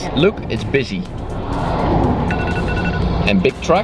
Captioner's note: sound of cars zooming past